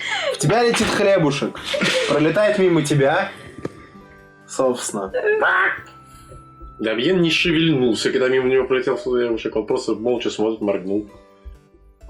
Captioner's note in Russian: звуки гуся